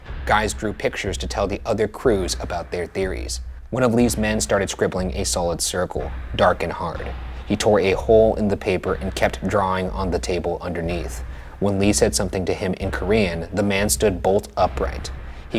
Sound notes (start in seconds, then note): none